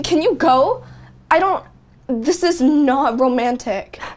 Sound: none

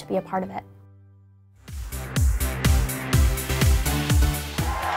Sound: cheers and applause

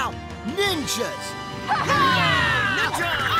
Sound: cheering

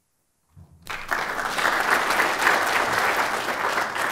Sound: applause

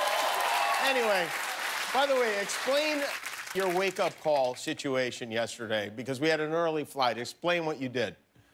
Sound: cheers and applause

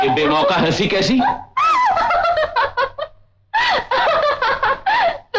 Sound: laughs

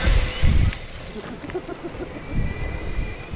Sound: laughs

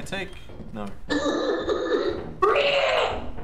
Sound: horse Noise

